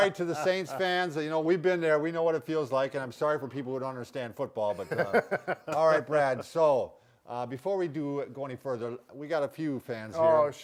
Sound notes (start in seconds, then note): 4.8 chuckles